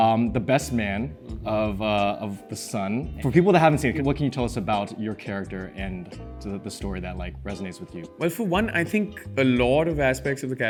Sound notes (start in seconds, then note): none